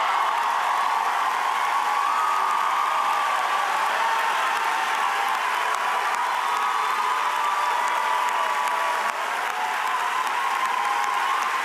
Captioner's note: cheers and applause